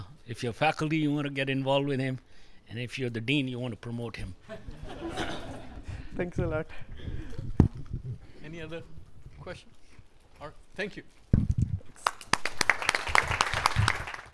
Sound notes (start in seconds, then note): 4.5 audience Laughing; 12.0 audience Applauding